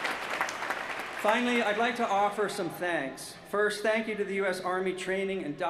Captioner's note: applause